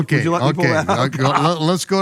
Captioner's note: laughs